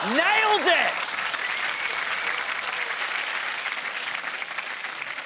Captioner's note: applause